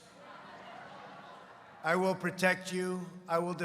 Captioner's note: laughter